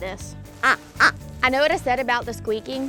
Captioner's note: squeaking